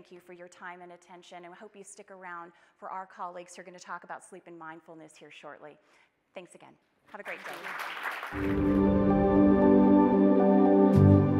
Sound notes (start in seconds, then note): 7.2 audience applauding; 8.3 soft music